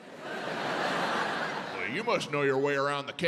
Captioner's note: audience laughs